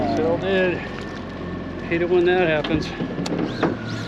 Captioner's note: none